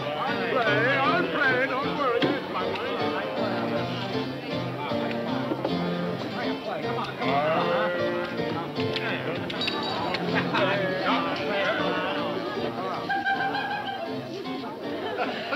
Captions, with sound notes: - I'll play, I'll play, don't worry, there's my money. - Make your play, come on, come on, huh (chattering) (laughing)